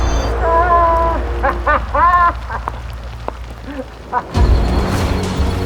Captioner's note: laughing